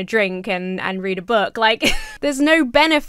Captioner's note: laughs